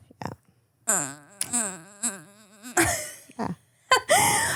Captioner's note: whining